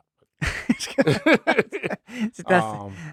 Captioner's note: laughing